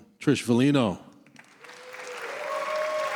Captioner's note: applause